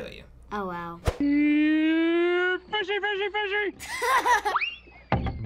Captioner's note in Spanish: riendo